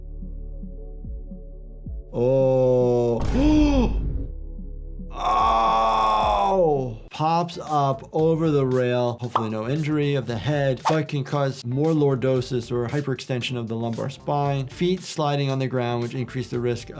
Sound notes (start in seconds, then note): 0.0 tranquil music; 2.2 gasps; 3.5 dramatic beat strikes; 4.3 tranquil music